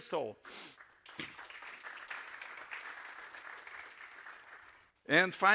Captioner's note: audience applauds